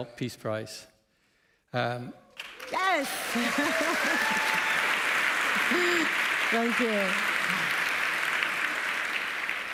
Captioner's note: applause